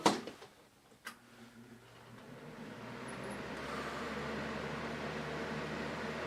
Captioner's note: fan sounds